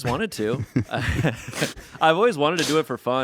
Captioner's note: everyone laughs